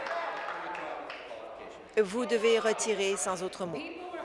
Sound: applause

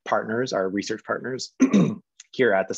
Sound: clearing throat

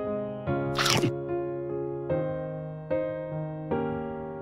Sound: mouth crunches

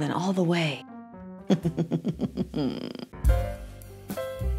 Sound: evil laugh

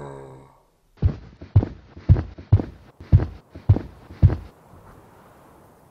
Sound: footsteps

